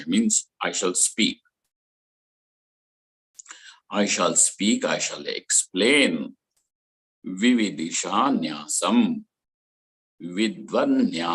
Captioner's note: sanskrit